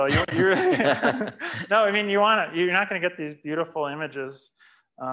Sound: laughs

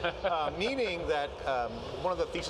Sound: laughing

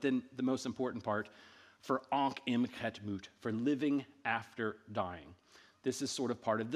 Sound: speaking in ancient Egyptian

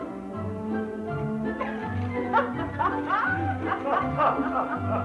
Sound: laughter

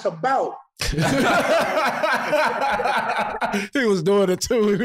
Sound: all laughing

